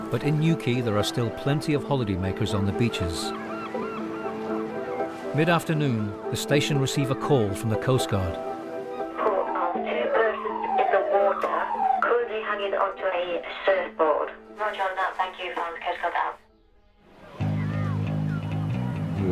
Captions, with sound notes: but in Newquay, there are still plenty of holiday makers on the beaches. Mid-afternoon, the station receive a call from the coast guard. - [Voice On Radio] Report of two persons in the water currently hanging onto a surfboard. - [Voice On Radio] Roger on that. Thank you. And coast guard out. (tense music)